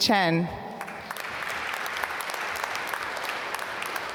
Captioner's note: applause